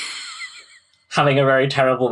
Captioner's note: laughs